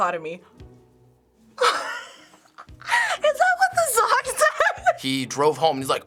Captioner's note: giggles